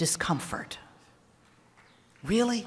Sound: applause

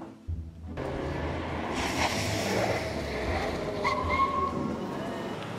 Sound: car skids and stops

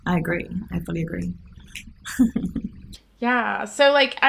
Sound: laughs

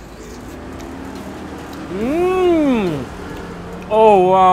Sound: sucking and chewing

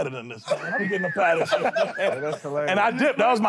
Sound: laughter

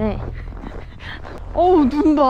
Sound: heh heh heh

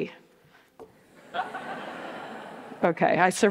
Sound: audience laughs

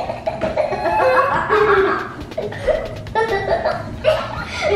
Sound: laughing

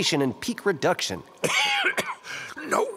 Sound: Slick coughs

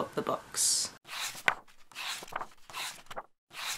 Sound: pages turning

